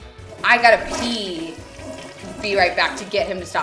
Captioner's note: toilet flushing